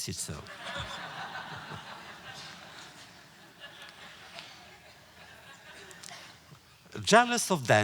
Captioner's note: audience laughter